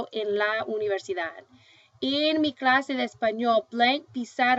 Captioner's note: speaking spanish